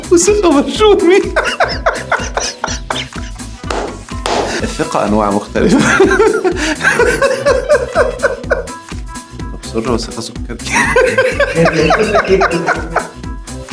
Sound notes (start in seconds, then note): 1.3 laughs!; 7.4 laughs!